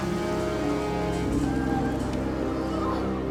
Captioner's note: sobbing